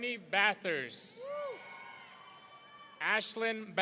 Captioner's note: audience cheering